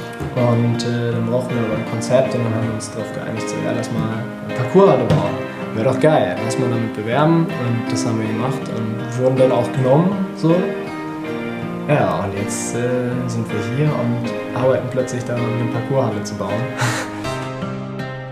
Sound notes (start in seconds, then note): 16.7 laugh